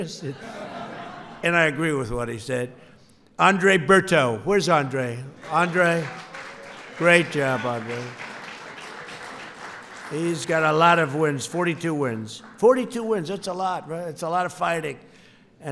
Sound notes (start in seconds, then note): 0.0 laughter; 8.1 applause